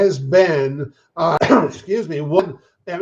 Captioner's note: coughs